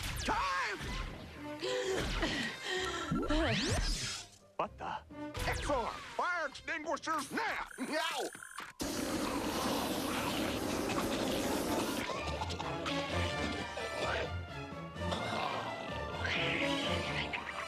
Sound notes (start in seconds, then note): 2.2 gasping; 4.0 whoosh; 12.4 coughing